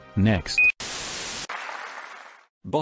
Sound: TV Static; applause

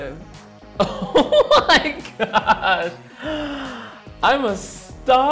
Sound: laughing

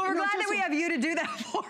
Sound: laughter

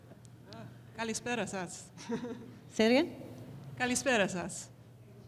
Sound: foreign language

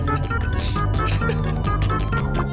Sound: laughs

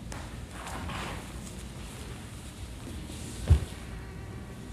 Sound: rustling movement

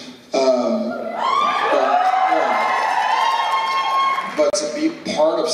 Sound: loud cheers

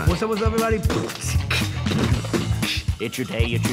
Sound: beatboxing

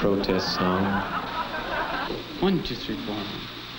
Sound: laughing

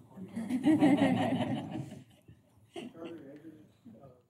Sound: laughter

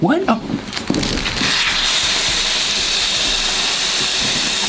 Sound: soda spraying

